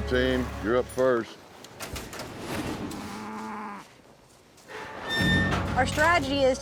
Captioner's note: cow moos